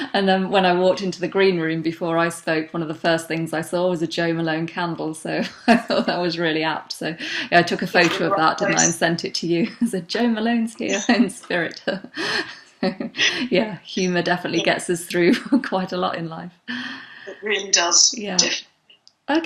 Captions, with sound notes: and then when I walked into the green room before I spoke, one of the first things I saw was a Jo Malone candle, so I thought that was really apt, so yeah, I took a photo of that didn't I and sent it to you and said Jo Malone's here in spirit (laughs). Yeah, humor definitely gets us through quite a lot in life. - It really does, definitely.